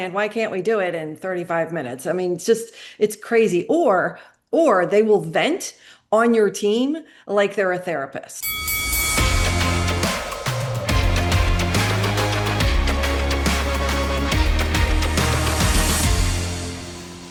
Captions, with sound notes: "Why can't we do it in 35 minutes?" I mean, it's crazy. Or they will vent on your team like they're a therapist. (bell rings) (upbeat music)